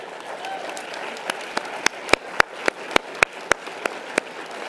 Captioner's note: audience applause